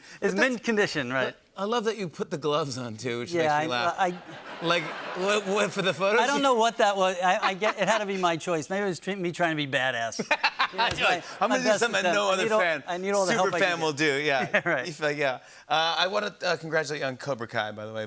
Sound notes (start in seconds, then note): 4.0 laughter; 10.1 laughter